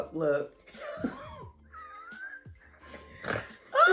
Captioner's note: laughter